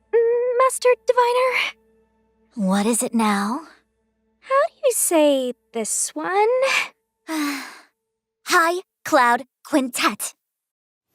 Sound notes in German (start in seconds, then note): 7.3 seufz